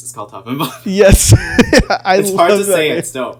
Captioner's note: laughing